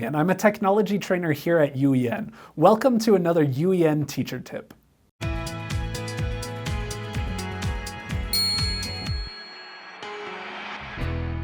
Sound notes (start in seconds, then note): 5.3 intro music; 8.3 ding!